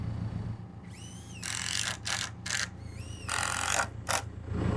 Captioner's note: drill whirring